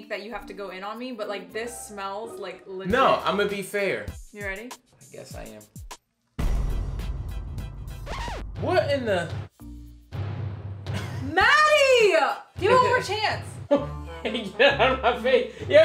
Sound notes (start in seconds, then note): 6.4 dramatic music; 8.0 record scratching; 10.1 dramatic music